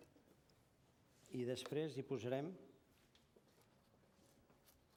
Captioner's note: non-english speech